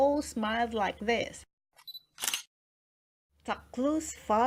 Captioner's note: photo camera clicks!